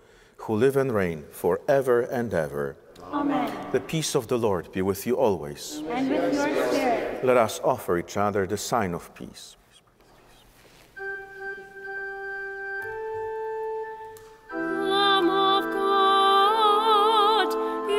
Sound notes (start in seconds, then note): 9.9 whispering; 10.9 organ playing